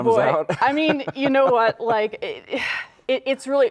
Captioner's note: laughing